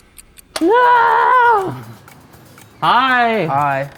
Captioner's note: timer ticking; shrieking